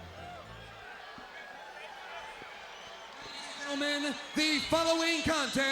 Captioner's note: crowd chatter